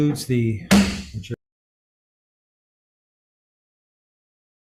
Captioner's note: gavel bangs